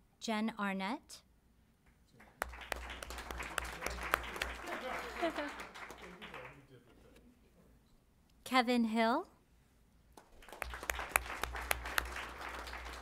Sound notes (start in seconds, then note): 2.1 applause; 10.1 applause